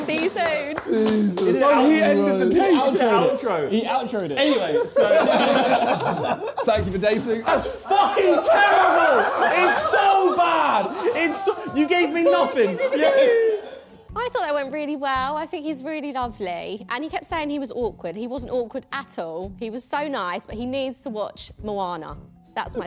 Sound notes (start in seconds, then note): 5.4 laughing; 9.2 all laughing